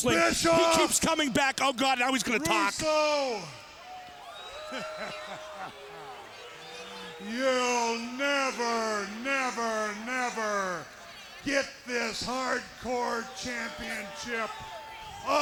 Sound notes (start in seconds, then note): 3.6 laughs